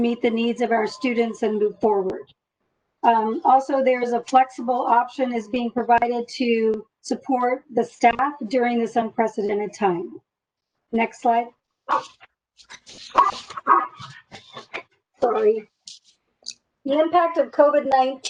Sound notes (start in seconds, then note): 11.9 dog barks